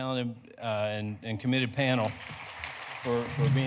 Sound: audience applauding

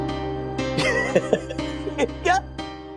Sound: chuckling

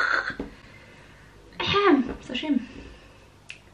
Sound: Russian

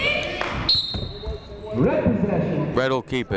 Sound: whistle blowing

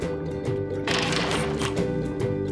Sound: bubbles; happy music; door squeaks

